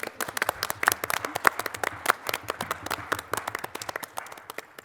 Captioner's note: applause